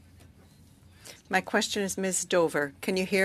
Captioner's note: speaking French